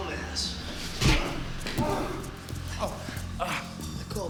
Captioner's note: Rick groans